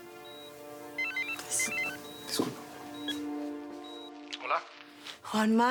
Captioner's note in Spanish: Suena un celular